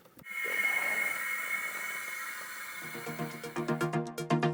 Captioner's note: air whooshing; gentle electronic music